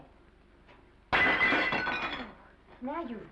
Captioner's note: plate shatters